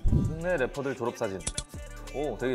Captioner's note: click